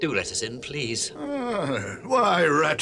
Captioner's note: Badger exclaims